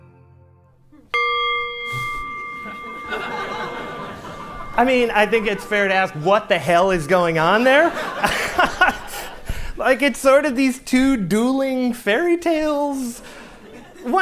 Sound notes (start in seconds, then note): 2.5 laughter; 9.1 laughs